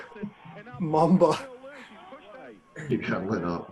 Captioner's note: laughs